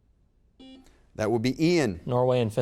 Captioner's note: buzzer beep